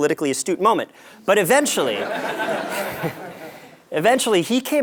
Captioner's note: laugh